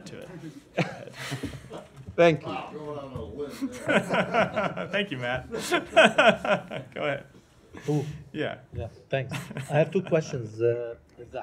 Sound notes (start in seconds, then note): 3.6 laughter